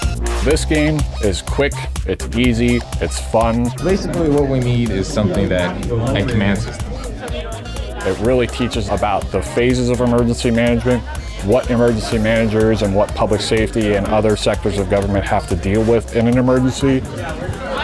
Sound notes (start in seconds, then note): 7.0 overlapping chattering; 17.6 overlapping chattering